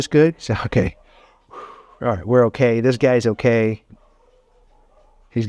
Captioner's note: exhales